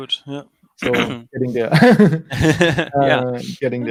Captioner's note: laughs